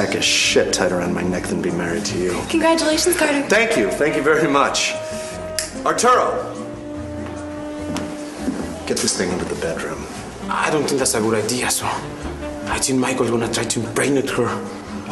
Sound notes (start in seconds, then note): 5.5 snaps fingers